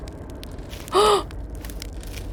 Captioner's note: gasp